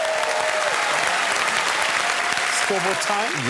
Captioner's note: cheers and applause